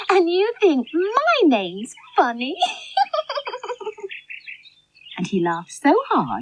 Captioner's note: laughs